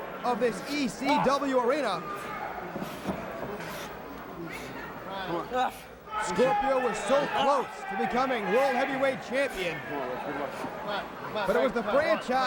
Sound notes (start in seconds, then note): 2.7 crowd chatter